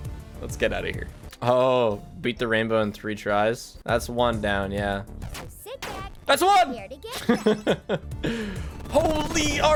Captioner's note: laughs